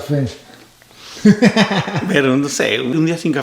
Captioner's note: laughs